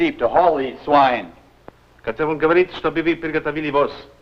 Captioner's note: foreign language